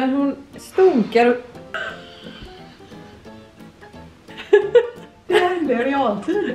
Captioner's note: laughter